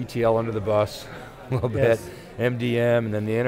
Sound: chuckles

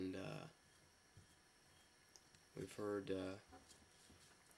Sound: none

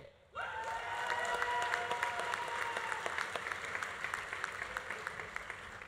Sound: audience cheering; audience applauding

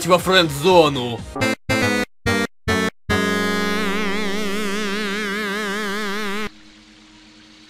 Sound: Game Over sound from Sonic

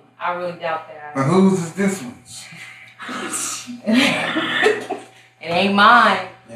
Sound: all laugh

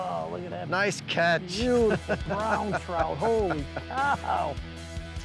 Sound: laughs; upbeat instrumental music

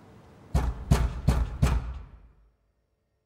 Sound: banging on door

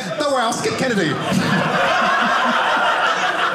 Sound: audience laughing

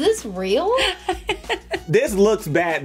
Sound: laughing

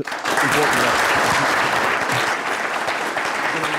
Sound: applause

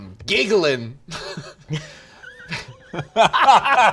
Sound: laughter

